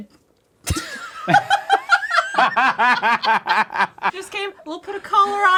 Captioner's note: laughing